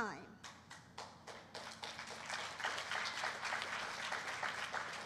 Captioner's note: applause